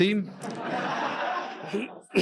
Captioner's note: audience laughing